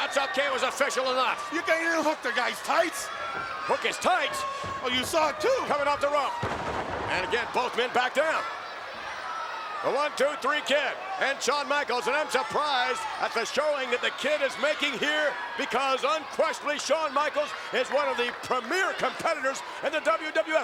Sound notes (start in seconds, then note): 6.5 bodies thud